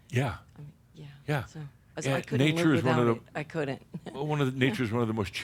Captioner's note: she chuckles